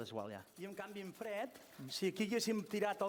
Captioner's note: non-english speech